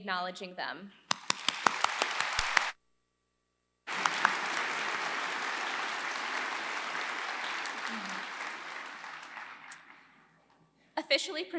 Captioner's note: applause